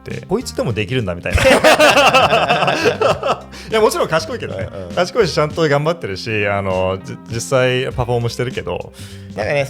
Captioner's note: laughs